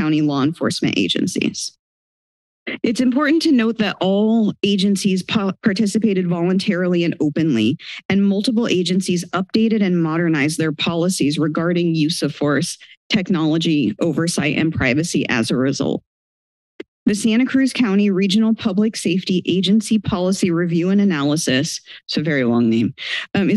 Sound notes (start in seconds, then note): 1.6 pause